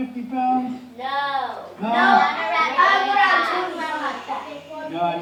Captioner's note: children chattering